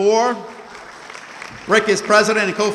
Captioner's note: audience clapping